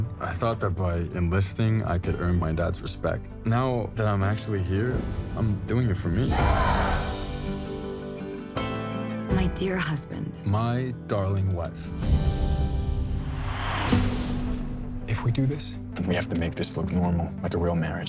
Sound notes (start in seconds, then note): 6.2 all yell; 11.8 music fades